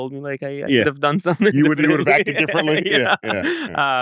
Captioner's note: laughs